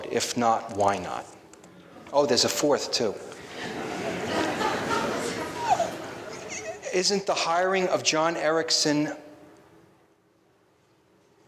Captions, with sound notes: If not, why not? Oh, there's a fourth too. (laughing) Isn't the hiring of John Erickson,